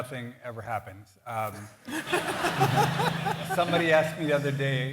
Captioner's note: laughter